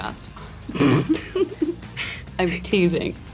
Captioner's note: laughing